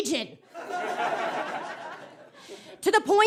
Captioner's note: audience laughs